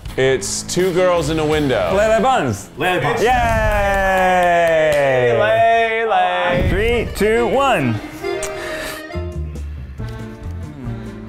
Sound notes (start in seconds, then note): 3.1 cheering; 8.5 relaxed music